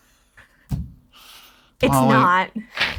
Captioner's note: both chuckling